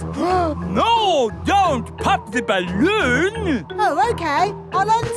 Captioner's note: gasps